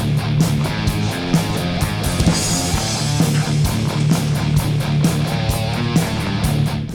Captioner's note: footsteps thumping; sniffing